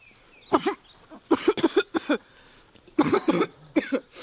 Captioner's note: coughing